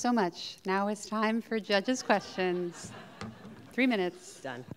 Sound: audience laughing

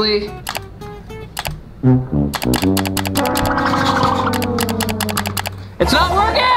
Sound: mouse clicking

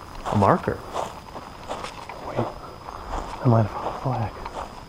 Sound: footsteps thudding

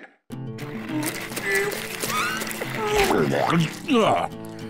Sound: grunting

